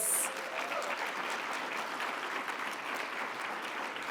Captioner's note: audience applauds